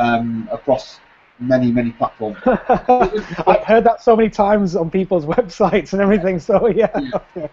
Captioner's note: laughs